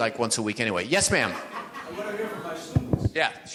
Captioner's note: audience laughs